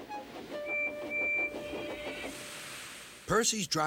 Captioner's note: whistles